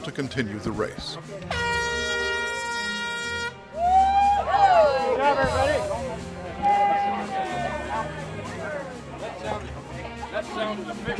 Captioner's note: horn sounds